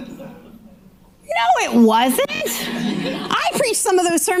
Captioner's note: audience laughing